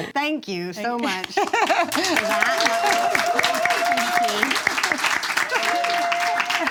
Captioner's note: audience claps